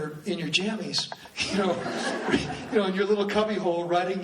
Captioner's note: laughs